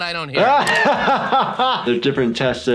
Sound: laughs

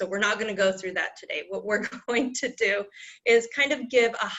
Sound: laughter

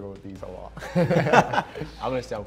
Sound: both laughing

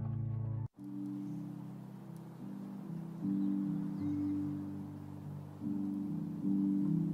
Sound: birds chirping; uplifting instrumental music

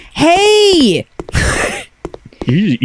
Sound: laughs

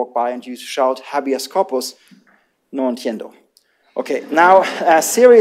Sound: laughter

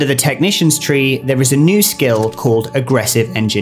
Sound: keyboard clicks

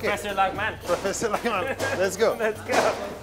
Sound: laughs

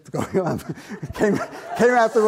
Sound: audience laughs

